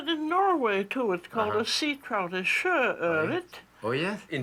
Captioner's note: speaking Norwegian